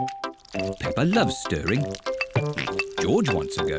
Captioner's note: oinks